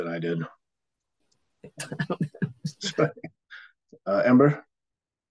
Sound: laughter

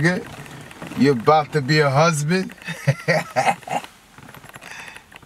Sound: laugh

